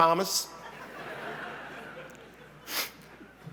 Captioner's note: laughter